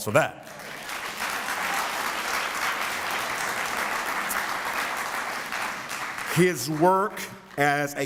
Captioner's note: applause